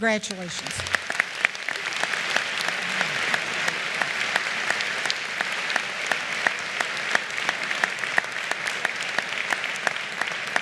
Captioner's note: applause